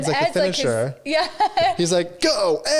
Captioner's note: laughs